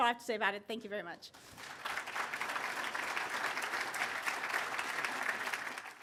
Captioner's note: applause